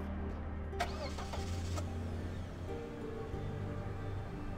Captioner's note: car engine starts